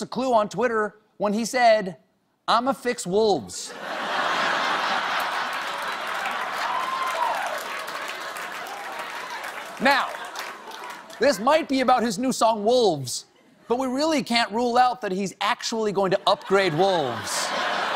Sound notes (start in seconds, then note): 3.7 laughter; 4.9 applause